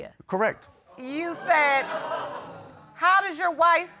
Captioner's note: audience exclaiming